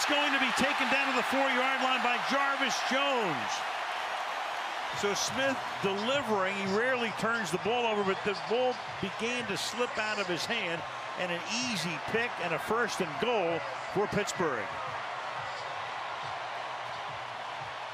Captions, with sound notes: And it's going to be taken down to the 4-yard line by Jarvis Jones! [cheering] So Smith delivering. He rarely turns the ball over. But the ball began to slip out of his hand. And an easy pick and a first and goal for Pittsburgh.